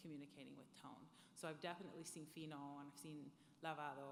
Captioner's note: speaking foreign language